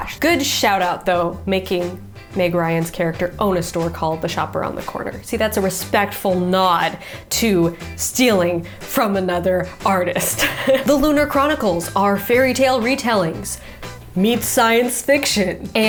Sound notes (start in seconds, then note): 10.2 chuckles